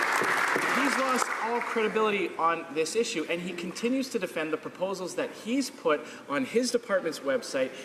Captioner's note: some Applause